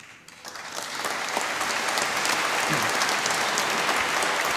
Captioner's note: applause